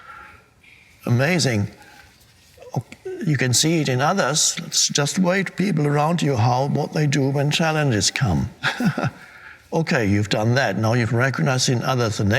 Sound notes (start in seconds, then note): 8.1 Eckhart laughing